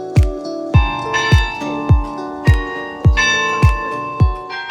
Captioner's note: church bells ringing